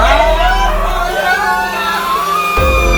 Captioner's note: screams